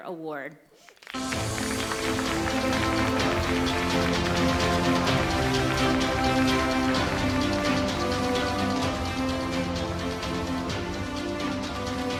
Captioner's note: applause, Music